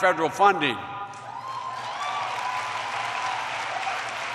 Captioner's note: applause